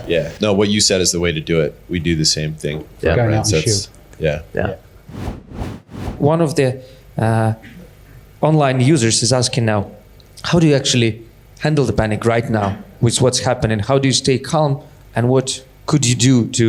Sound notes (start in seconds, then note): 5.1 whooshing